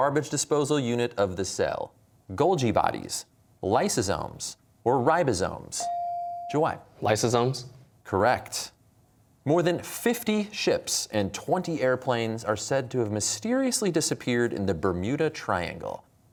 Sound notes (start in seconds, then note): none